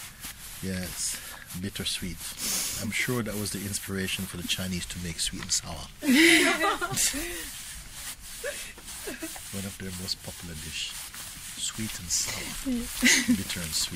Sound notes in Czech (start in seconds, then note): 7.7 smích